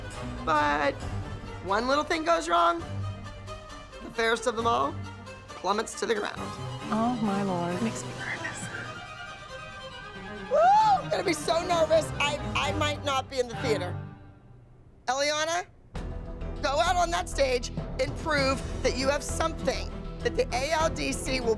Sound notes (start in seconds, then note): 10.4 exclaims